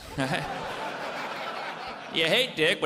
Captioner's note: audience laughs